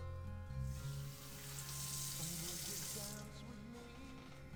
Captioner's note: water splashing